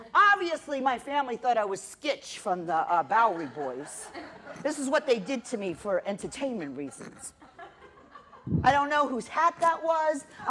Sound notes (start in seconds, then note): 3.3 laughter